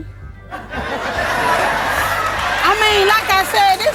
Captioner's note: audience laughing